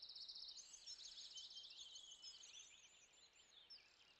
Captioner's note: birds singing